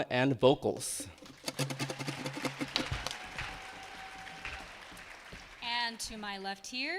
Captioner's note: attendees clapping and cheering